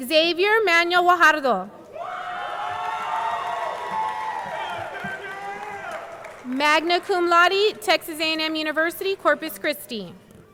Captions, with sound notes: Xavier Manuel Gallardo. (audience cheering) (audience clapping) Magna Cum Laude, Texas A&M University, Corpus Christi.